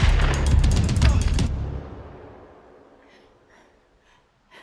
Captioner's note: gun shot